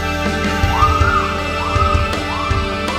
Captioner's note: woman screaming